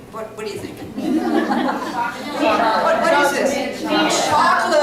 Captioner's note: laughter and answers from the audience